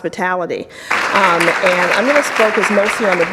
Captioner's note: audience applauds